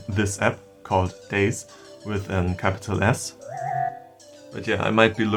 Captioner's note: warping sound